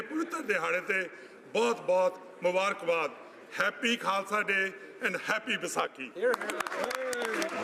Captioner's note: speaking alternate language